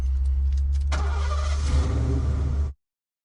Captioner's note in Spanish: Ruido del motor